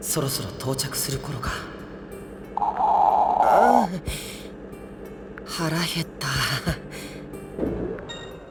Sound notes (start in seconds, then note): 2.6 awkward groan